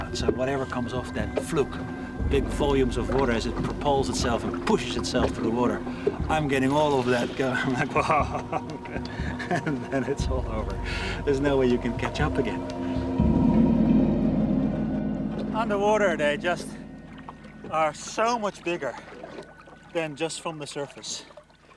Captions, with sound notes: so whatever comes off that fluke, big volumes of water, as it propels itself and pushes itself through the water, I'm getting all of that... [laughs] ...and then it's all over. There's no way you can catch up again. Underwater they just are so much bigger than just from the surface.